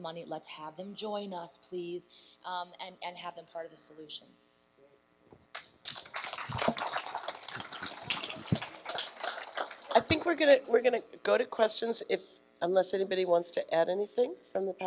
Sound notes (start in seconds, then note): 5.8 applause